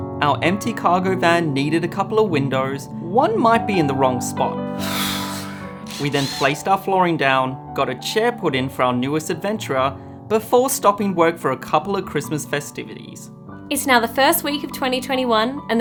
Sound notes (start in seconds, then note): 4.8 sighs